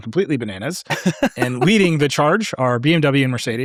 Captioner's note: laughing